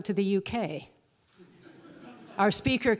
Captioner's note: laugh